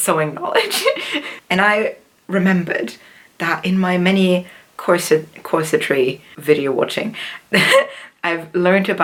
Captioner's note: laughs